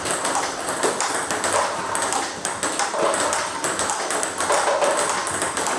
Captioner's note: balls ping pong hitting continues